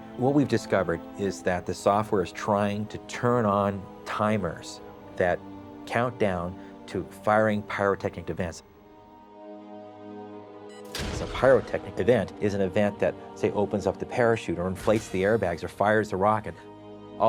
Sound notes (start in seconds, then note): 10.7 beep sound; 10.9 bang